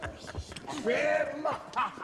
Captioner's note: laughs